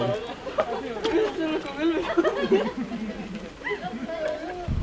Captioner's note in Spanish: risas